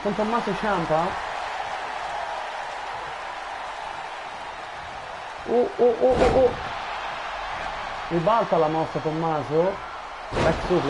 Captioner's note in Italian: Applauso